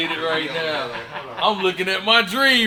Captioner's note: man 2 laughing